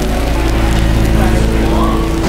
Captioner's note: sizzle